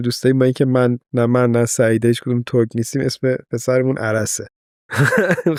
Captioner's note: laughs